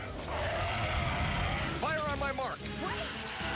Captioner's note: roaring